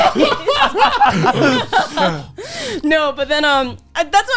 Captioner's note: laughing